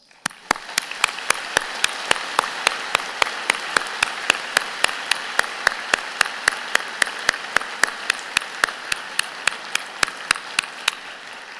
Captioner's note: applause